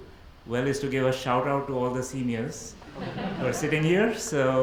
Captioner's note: audience laughs